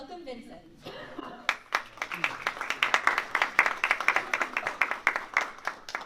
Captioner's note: applause